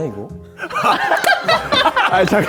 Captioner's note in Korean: 까르륵